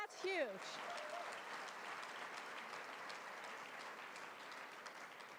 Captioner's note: applause